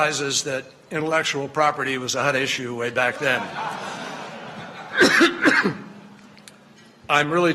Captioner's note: laughter